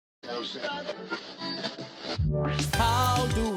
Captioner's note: radio sound